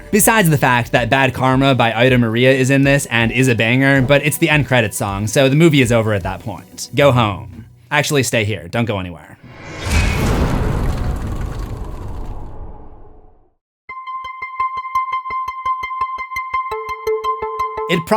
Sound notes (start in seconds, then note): 9.4 impact